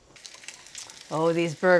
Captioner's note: patties sizzling